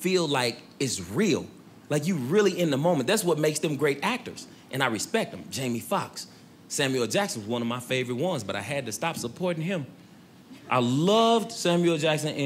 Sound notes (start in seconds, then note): none